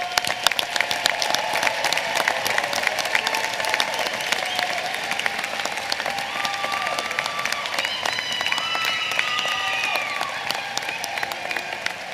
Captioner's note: applause